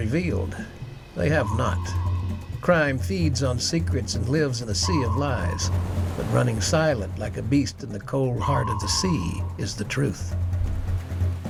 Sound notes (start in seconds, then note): 1.2 submarine beeps